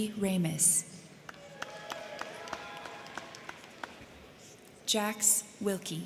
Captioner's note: crowd clapping; crowd cheering